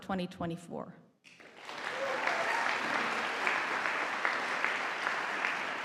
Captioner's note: audience applauding